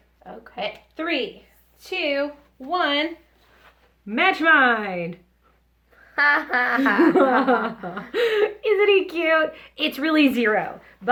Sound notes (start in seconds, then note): 6.2 laughs